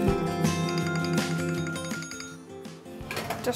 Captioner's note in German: Klingeln